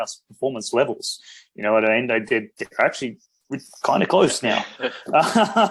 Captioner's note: BOTH laugh